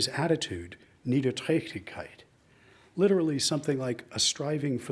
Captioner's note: speaks in foreign language